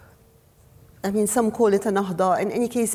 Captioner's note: speaks foreign language